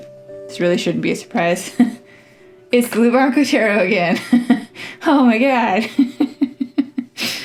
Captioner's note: laugh